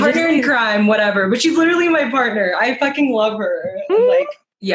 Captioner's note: aww